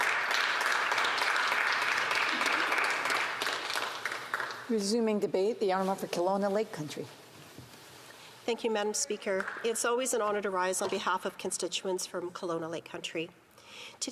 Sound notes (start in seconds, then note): 4.6 applause